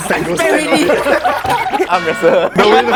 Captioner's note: chaotic laughter